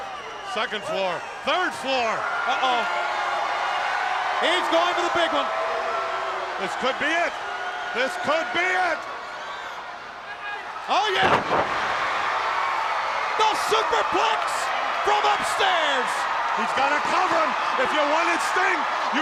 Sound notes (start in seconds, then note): 3.3 crowd cheering; 10.9 wrestlers thudding on ring; 12.7 crowd cheering